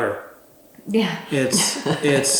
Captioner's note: laughs